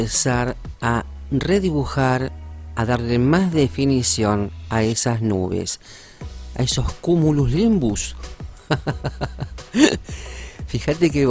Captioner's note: laughs